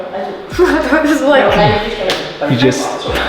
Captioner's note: laughing